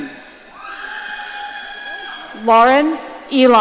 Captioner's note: audience cheering